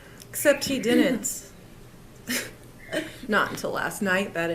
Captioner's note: chuckles